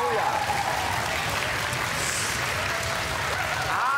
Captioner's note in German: Jubel und Applaus